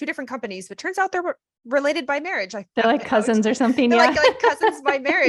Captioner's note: laughs